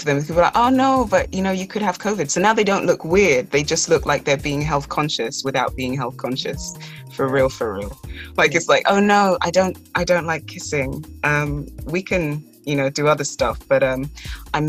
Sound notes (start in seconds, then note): none